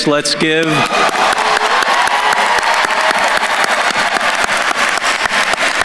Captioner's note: attendees cheering and applauding